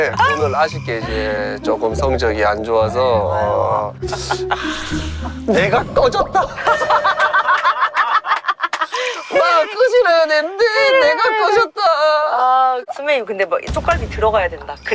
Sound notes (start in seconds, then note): 4.5 sigh